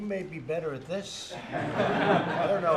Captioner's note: laughter